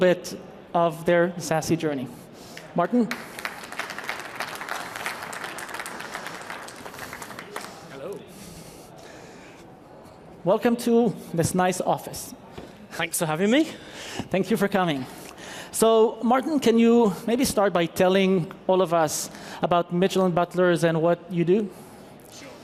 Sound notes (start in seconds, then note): 5.5 applause